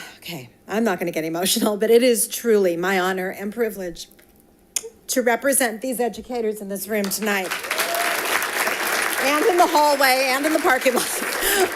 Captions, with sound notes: Okay, I'm not gonna get emotional, but it is truly my honor and privilege to represent these educators in this room tonight (audience applauding) and in the hallway and in the parking lot.